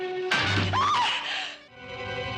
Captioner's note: çığlık atıyor